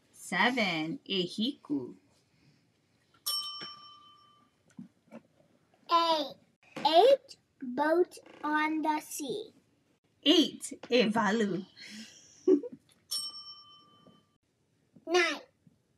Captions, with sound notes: 7, `Ehiku (bell dings) 8 8 boat on the sea. 8, `Ewalu (giggles) (bell dings) 9